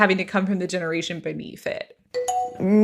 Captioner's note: bingbong